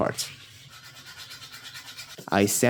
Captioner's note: intense sanding sound